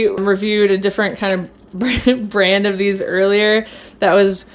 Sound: laughs

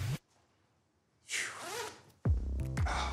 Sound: sighs

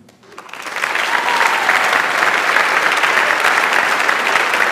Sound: audience applauds

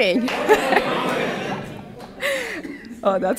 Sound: laughter

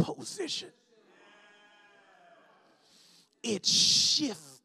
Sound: congregation shouts

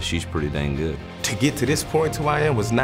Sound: voiceover

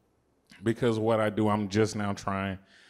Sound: none

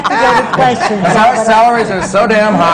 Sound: laughter

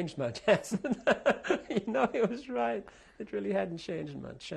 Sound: laughs

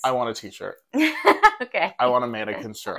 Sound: laugh

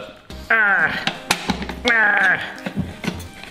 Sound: grunting

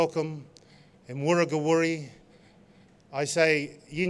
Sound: non-english speech

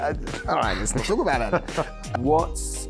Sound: laughing

